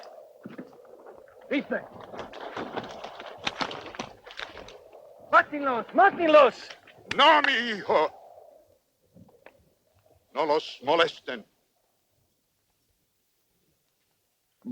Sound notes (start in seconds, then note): 1.6 Red Hawk speaks Spanish; 7.2 Victorio speaks Spanish